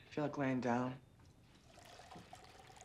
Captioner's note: water run